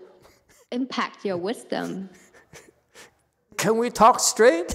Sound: laughs

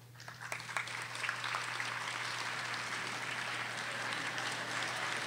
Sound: audience applauding

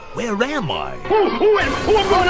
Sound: Tigger freaking out

